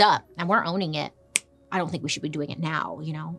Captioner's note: fingers snapping